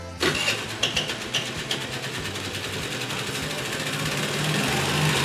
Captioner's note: engine starting